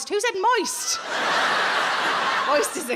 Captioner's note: audience laughing